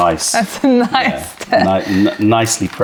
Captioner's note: laughter